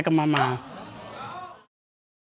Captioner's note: audience groaning